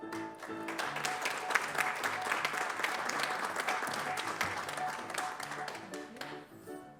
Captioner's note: applause